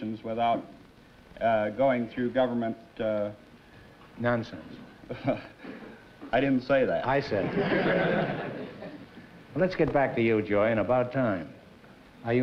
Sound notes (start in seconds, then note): 5.0 chuckles